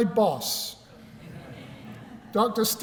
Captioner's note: laughter